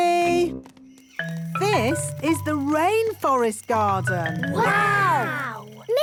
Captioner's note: rainforest sounds